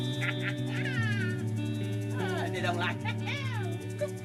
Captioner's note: laughing